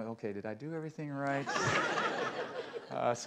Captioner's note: laughter